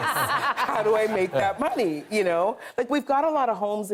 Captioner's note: laughter